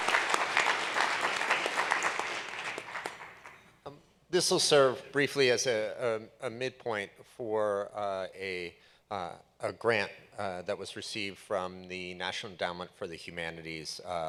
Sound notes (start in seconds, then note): 1.9 applause